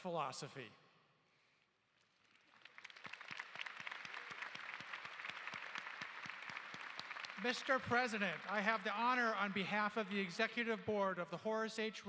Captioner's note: applause